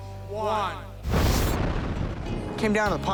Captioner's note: rocket engine revs